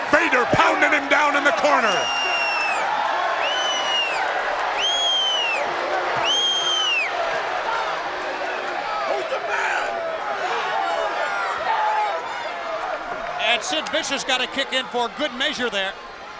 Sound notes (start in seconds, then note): 3.2 crowd cheers and boos